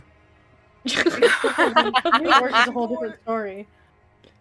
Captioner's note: laughing